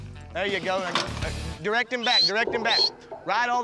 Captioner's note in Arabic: يصفر